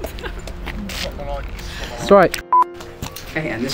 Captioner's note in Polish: śmiech